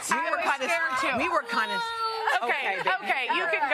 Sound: crying

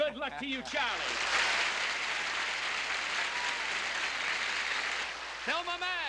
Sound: applause

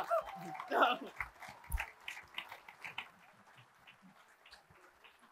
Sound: attendees applauding

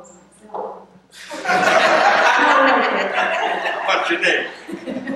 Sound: laughter

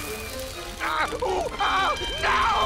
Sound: screaming

